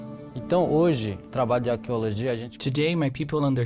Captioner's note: speaking Portuguese